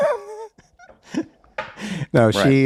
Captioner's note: laughing